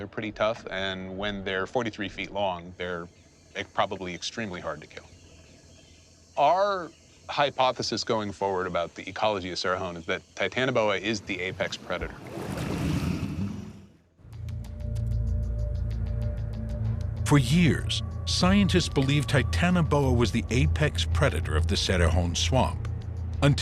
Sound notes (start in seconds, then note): 12.5 creature exhales